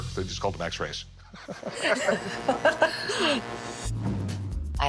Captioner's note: laughter